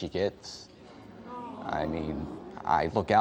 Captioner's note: in Unison